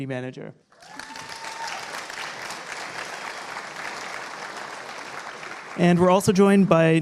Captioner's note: applause